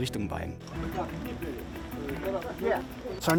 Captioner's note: speaking Ukrainian